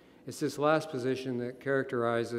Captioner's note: none